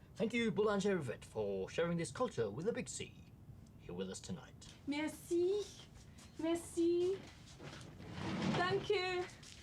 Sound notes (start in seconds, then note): 4.9 Yvette speaks French